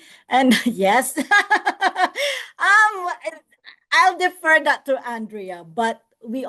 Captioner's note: laughs